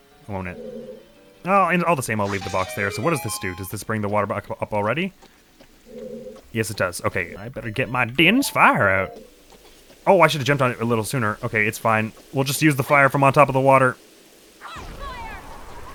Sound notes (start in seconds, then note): 5.0 clock begins ticking; 7.9 cowboy voice